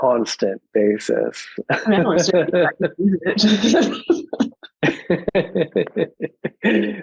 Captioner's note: panelists laughing